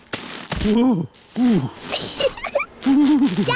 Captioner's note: groans; giggles